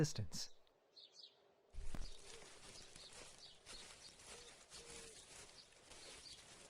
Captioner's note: footsteps sound off briefly